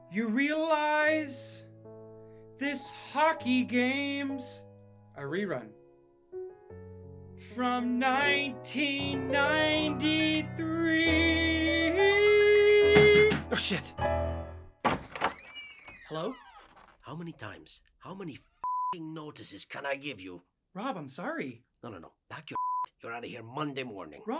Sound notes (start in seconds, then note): 12.5 landlord pounds on door